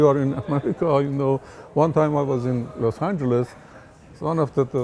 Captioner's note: laughs